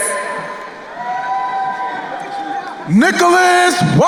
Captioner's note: crowd cheering